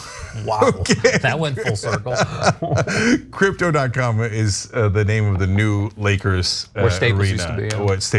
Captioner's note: laugh